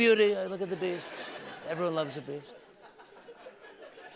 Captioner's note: laughter